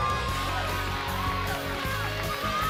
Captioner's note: crowd cheering; bell ringing